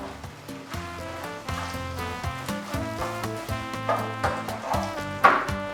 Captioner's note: sizzle